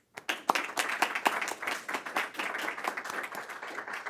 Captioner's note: audience applauds